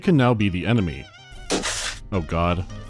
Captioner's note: pofsh